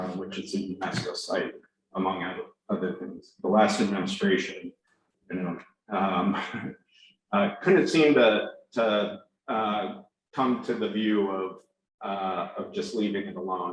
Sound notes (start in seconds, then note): 5.9 laughs